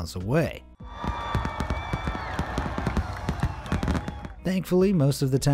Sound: crowd cheering

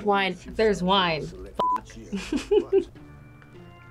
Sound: laughs

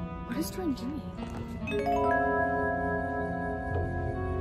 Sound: chime noise

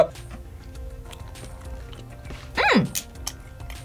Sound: eating noises

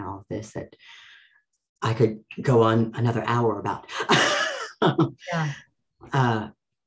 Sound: laughs

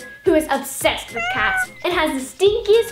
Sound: cat meowing

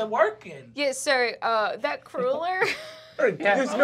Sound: laughing

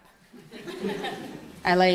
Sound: audience laughs

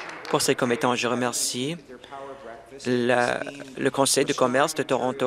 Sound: applause

